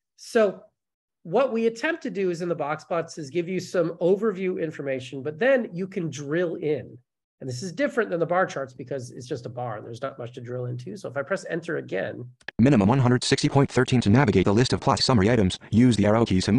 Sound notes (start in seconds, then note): 12.7 voiceover